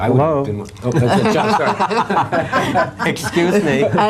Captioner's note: all laughing